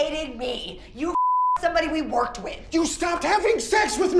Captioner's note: beep